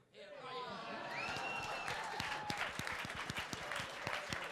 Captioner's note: crowd applauding